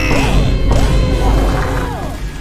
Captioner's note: meme Fart Sound Effect; Vine boom